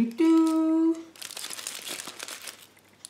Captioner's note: tin foil rustles